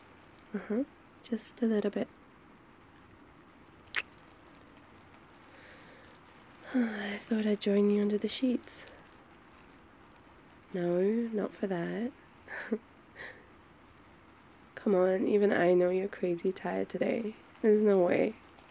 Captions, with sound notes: uhuh, just a little bit *kiss* *sighs* I thought I'd join you under the sheets no... not for that *laughs* come on, even I know you're crazy tired today... there's no way